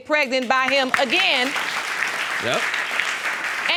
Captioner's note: audience clapping